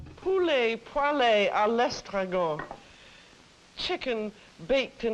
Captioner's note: speaks in foreign language